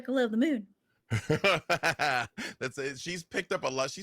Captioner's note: laughs